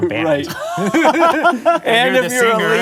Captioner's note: laughing